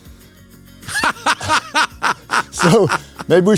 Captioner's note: Dave laughs